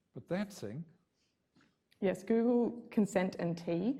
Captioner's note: none